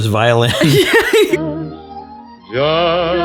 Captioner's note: both laughing